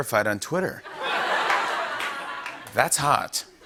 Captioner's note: laughter